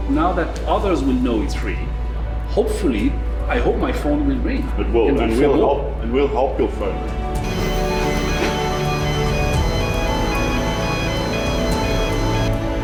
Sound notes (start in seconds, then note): 7.4 lifting equipment beeping; 9.5 inspirational music